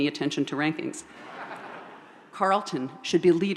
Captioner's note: audience laughs